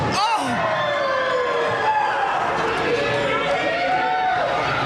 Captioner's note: commander screams